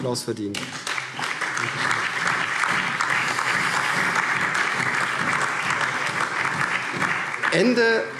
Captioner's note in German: Allgemeiner Beifall